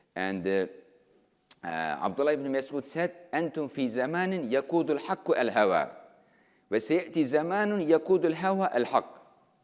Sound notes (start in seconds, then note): 2.3 speaking in foreign language